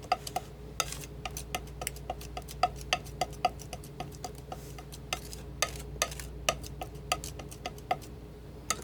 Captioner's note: scratching